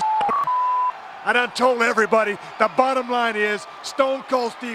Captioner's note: beep